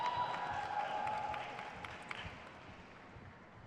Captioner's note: crowd cheers